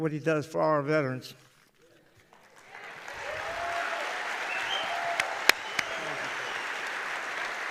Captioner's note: applause